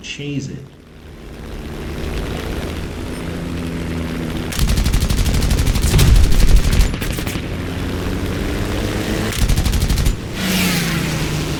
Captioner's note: aircraft Engines ,Gunfire, Flying Sounds